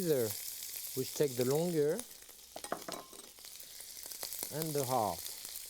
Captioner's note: pan sizzling